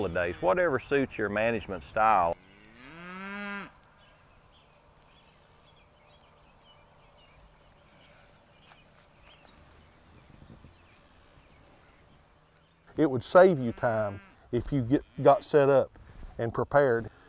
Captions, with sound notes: of days, whatever suits your management style. [ Cows mooing ] >> It would save you time if you got set up and prepared.